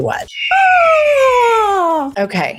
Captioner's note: eagle caw